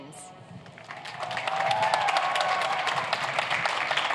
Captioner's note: cheers and applause